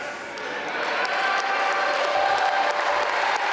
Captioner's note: applause